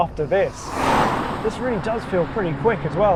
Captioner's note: car whooshes